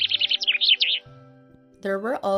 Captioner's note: chirps